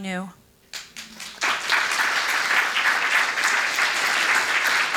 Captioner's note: audience clapping